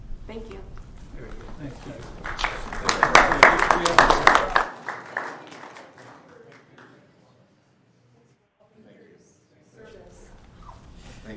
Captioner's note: applause